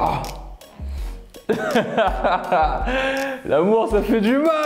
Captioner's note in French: rire